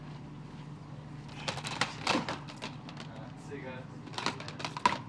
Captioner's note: rattling dvd cases